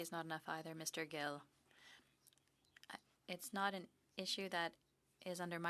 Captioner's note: speaking French